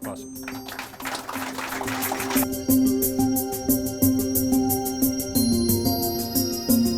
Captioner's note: upbeat music; crowd applauding